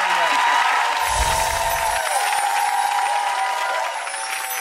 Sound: clapping and cheering; chimes ring

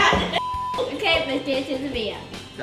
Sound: beep

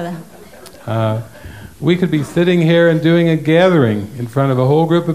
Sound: laughter

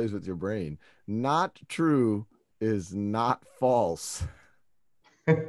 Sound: laughs

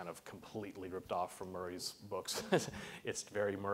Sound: laughs

